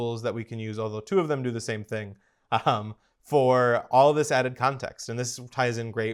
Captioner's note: laugh